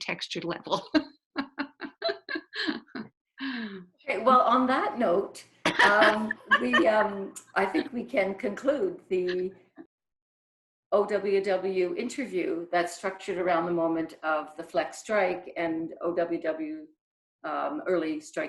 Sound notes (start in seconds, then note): 1.3 laughter; 5.6 laughing